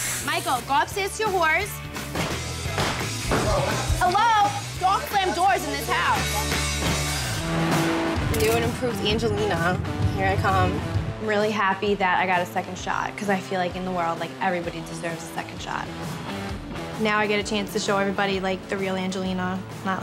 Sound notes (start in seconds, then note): 3.3 door slamming; 6.4 rock music